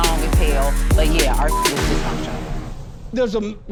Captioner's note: beeping